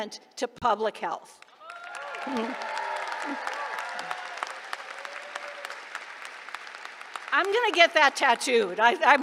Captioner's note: applause